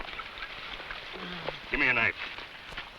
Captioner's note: man groans